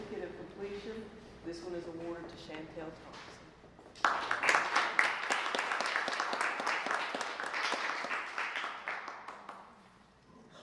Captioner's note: applause